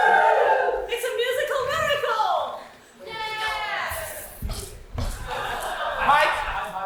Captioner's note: audience cheers; audience: yayyy!, laughter